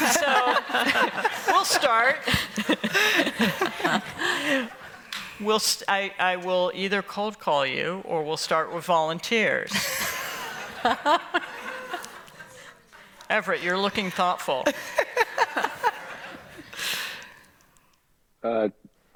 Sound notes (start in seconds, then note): 0.0 laughter; 9.7 laughter